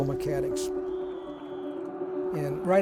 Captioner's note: music and referee whistle blows